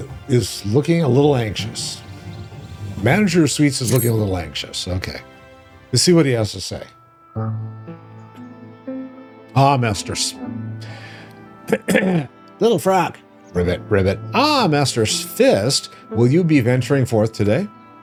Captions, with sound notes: is looking a little anxious. Manager of sweets is looking a little anxious. Okay. Let's see what he has to say. Ah, master's. [clears throat] Little frog. Rivet, rivet. Ah, master's fist. Will you be venturing forth today?